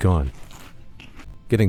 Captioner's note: chewing